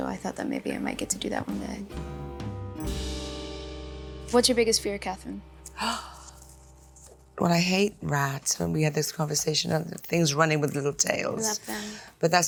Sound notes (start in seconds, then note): 5.7 Catherine gasps